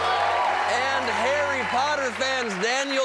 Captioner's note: cheers and applause